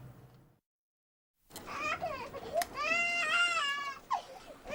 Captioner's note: chillidos